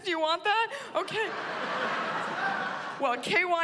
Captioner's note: laughter